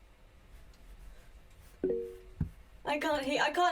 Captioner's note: computer bleep